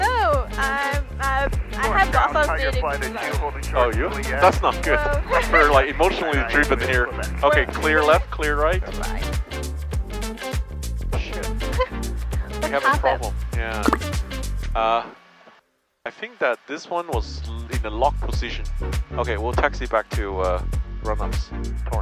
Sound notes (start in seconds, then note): 4.0 laughing; 9.5 cheerful music; 12.4 laughing